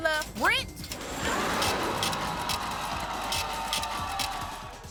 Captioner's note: scratching